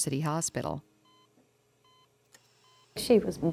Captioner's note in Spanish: monitor pitando